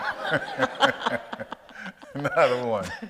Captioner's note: audience laughs